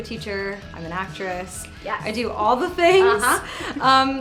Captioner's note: snaps fingers